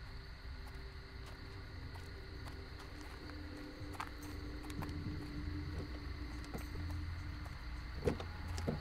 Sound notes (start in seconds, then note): 0.0 bugs chirping; 0.1 suspenseful music